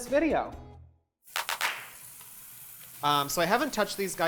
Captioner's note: fast-paced clapping